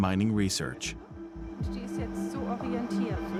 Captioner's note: researchers speaking German